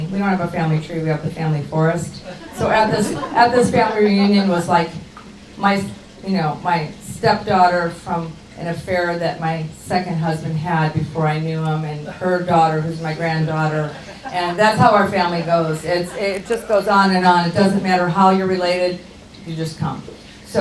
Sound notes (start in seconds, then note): 2.1 audience chuckles